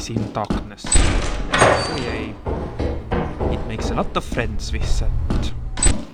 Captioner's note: unenthusiastic oh yay